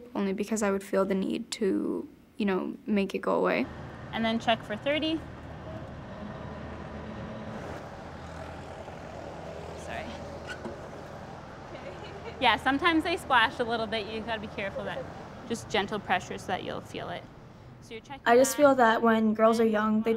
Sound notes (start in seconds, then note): 10.3 squeak; 11.4 laughing